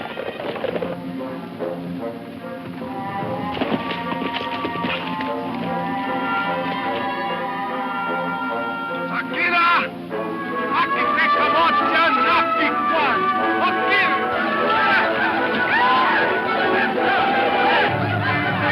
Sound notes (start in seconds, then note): 0.3 suspenseful music; 8.4 speaks in foreign language; 15.3 Indians yell